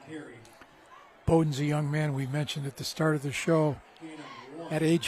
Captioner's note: applause